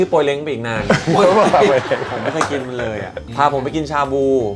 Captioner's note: laugh